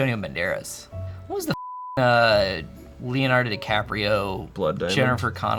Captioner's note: beep